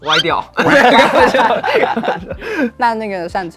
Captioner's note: laughs